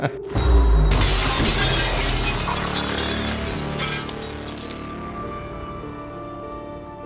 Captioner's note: laughing; dramatic music; glass shattering